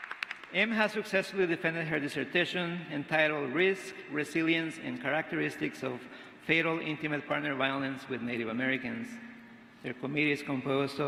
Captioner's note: applause